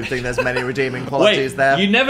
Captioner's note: Phil laughs